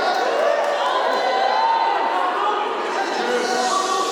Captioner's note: applause